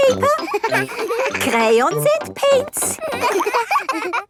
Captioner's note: all laughing